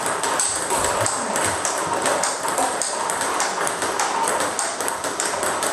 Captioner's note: ball ping pong hitting continues